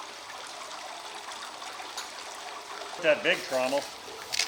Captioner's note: water splashing